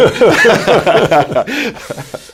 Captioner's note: laughter